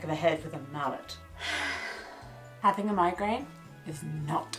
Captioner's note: sighing